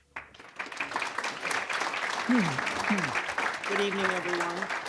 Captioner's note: applause